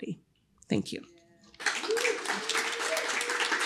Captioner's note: applause